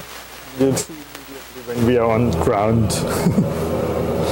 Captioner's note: airplane humming continues; chuckling; airplane humming continues